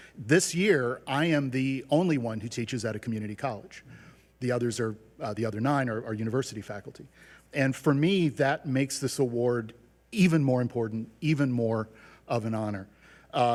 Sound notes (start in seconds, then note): none